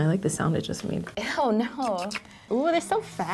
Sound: slurps

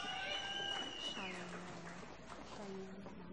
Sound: applause

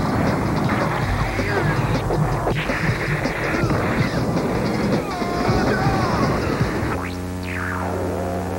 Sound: grunts

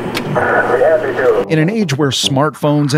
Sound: radio static

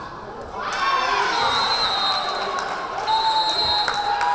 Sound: crowd cheering; whistle blaring

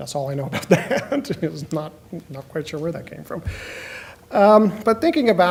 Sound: laughs

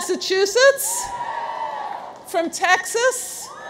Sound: audience cheers

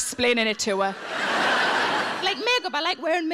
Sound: audience laughing

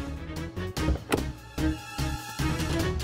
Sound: car door opens

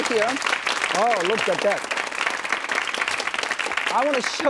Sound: audience claps

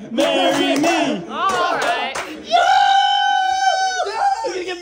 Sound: all cheer and laugh

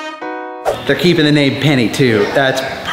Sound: screen swooshes

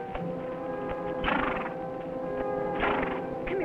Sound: horse nickering

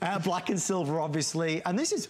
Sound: laughter

